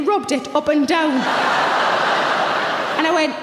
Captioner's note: audience laughs